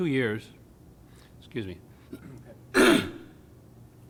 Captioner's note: coughs